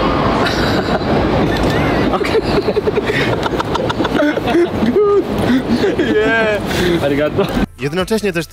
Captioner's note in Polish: śmiech